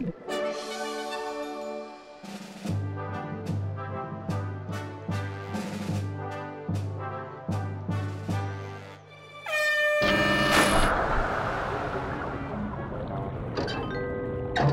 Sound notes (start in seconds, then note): 8.5 air horn sounds